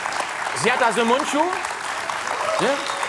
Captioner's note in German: Applaus